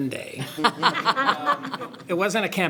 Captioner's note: everyone laughs